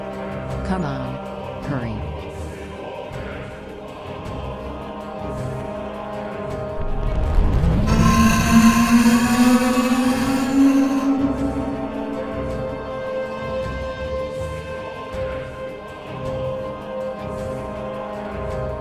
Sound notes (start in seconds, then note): 7.6 tentacle beast blares; 7.6 scorpion beast shrieks